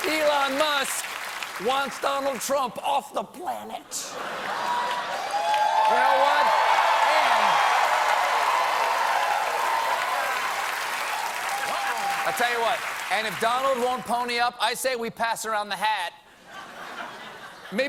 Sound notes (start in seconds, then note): 0.0 applause; 4.3 cheers and applause